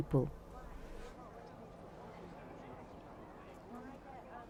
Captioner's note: crowd chatter